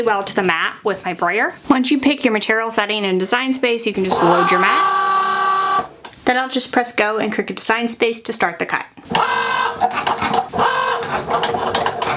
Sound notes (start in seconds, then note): 4.0 machine whirring; 9.1 machine whirring